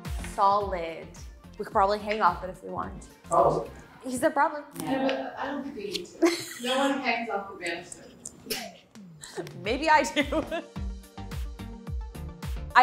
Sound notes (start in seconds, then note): 0.0 upbeat music; 8.0 chuckles; 11.6 upbeat music